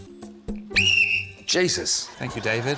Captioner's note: blows whistle